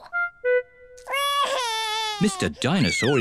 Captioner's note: wails